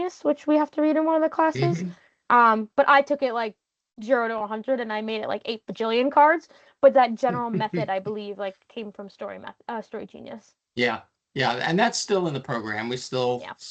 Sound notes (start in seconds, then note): 7.3 chuckling